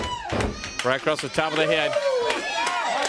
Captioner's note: crowd cheering